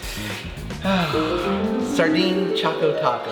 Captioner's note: sighs